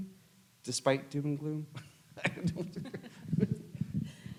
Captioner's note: laughs